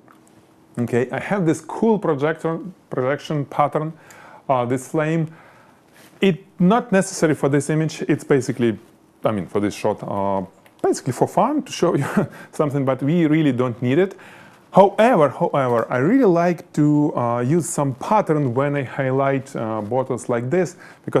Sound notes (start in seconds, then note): 12.4 laughs